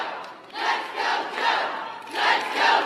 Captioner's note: applause